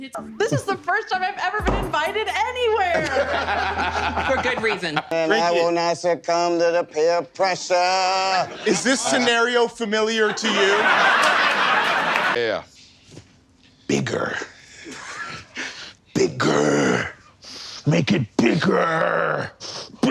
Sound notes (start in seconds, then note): 2.9 laughter; 8.8 in a schoolteacher voice; 10.1 laughter